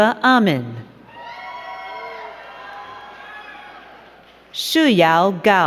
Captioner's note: crowd cheering and clapping